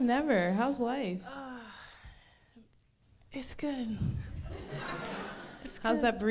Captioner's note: crowd laughs